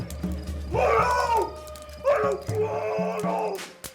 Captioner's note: August screaming